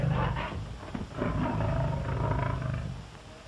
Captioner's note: growling